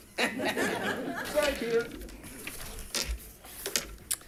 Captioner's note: audience laughs